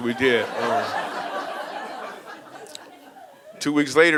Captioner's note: audience laughing